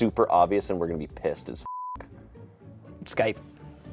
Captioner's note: beep